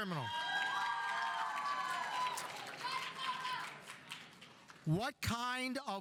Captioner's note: audience cheering; audience applauding